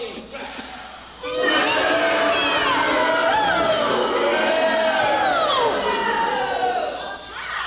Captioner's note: booing